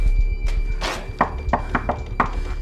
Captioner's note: knocking on door